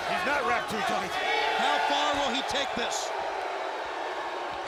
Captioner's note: audience cheering